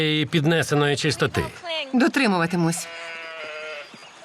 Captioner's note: sheep bleating